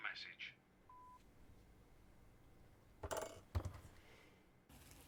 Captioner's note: phone beeping